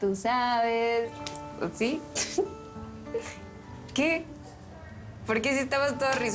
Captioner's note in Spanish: Ríe